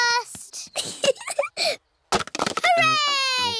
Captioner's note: giggling